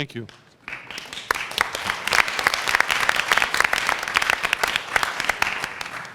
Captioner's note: applause